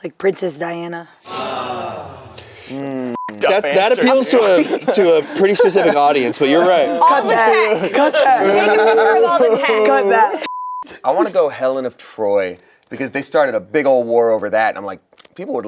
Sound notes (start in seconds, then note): 1.2 canned awe sound effect; 3.1 beep; 10.4 beep